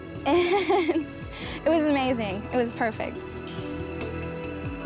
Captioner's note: giggles